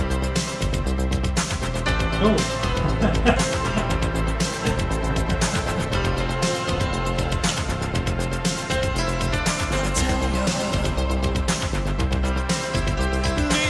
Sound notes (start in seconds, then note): 2.0 laughing; 4.5 upbeat music continues